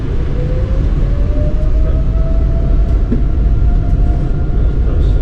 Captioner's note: plane engine whirring